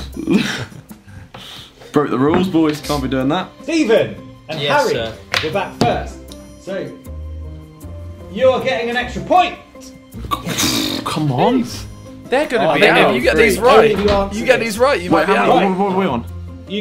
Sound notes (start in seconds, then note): 2.0 mumbles